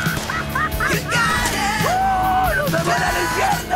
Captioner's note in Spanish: Risas; Gritos y exclamaciones